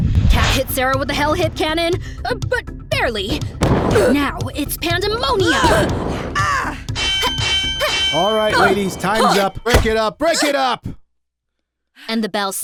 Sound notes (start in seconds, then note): 6.9 bell rings